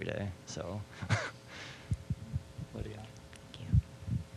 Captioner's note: chuckling